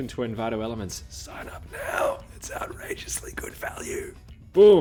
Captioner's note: whispers